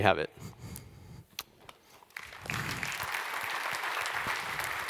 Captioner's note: applause